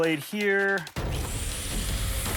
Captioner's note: sawing